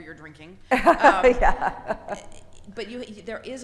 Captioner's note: laughs